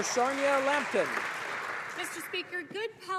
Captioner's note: some Applause